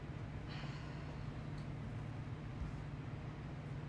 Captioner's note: Eden sighing